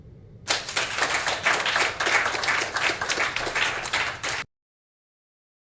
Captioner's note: applauses